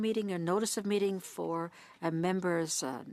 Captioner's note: speaking French